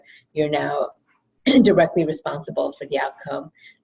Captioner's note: cough